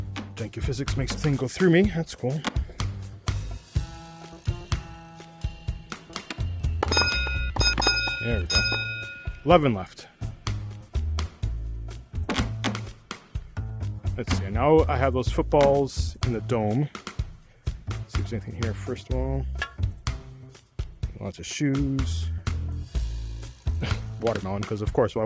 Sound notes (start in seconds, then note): 6.7 ding*ding*ding*ding*ding; 23.8 laughs